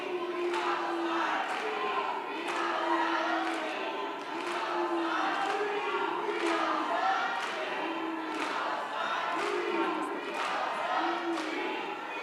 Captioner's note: background chanting, “Free, Free Palestine!”